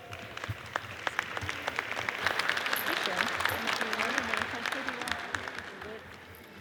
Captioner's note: audience applauds; people chattering